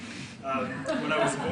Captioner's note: audience laughs